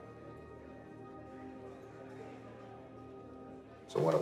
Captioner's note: prisoners chattering